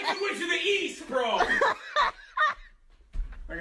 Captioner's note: woman laughing